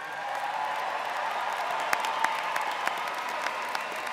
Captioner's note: all clap